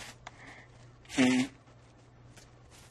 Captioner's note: wiping nose